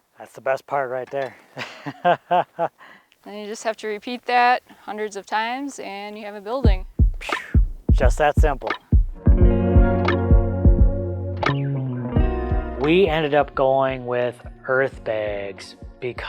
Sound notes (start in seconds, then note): 1.5 laughs; 7.2 sighs; 9.5 upbeat music